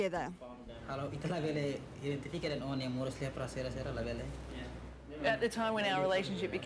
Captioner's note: speaking in native language